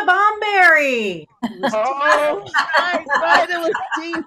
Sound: all laughing

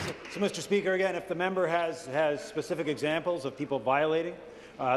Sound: applause

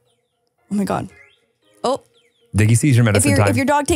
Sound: phone chimes

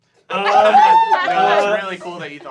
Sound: laughing

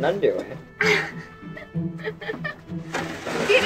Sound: laughs

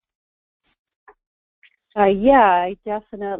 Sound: voiceover

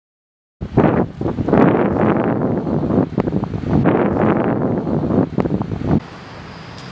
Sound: wind noises

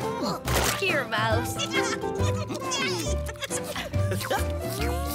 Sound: laughing, crunching and licking

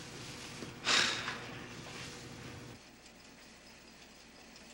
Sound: Joe sighs

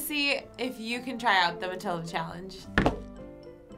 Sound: slamming table

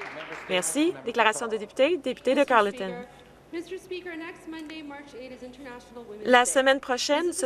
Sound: some Applause

